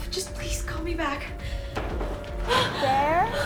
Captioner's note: knocking on door; Sharon gasps